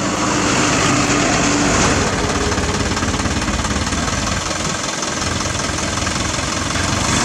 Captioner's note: engine Rumble